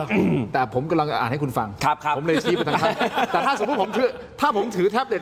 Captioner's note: clearing throat; laughter